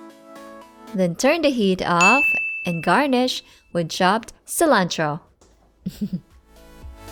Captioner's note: soft chuckles